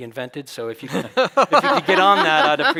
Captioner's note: chuckles